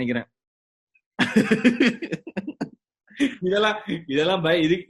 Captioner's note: laughs